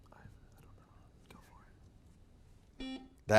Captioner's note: students whisper; buzzer beeps